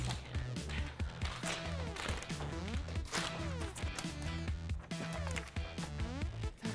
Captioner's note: foot steps; paper rustling